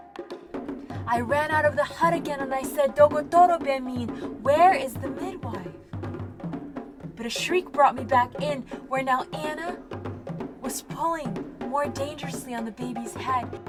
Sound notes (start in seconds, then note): 3.2 foreign language